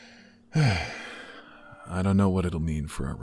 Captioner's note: sighs